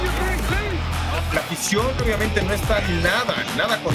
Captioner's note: Spanish